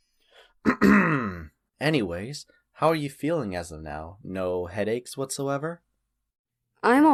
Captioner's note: clears throat